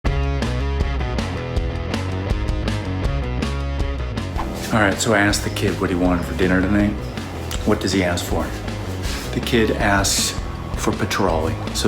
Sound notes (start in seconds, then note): 0.0 rock music; 4.1 whip cracking